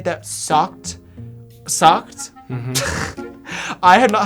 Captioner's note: laughs